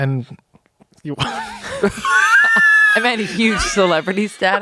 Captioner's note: everyone laughs